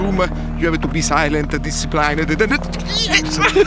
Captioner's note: laughs